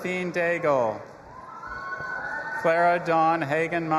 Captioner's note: audience applauding and cheering